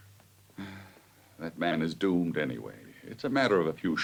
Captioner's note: sighs